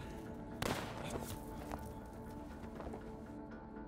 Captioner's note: gun firing